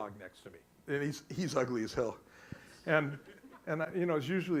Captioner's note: audience laughs